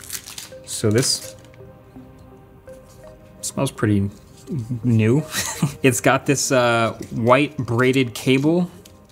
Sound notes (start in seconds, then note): 5.2 chuckles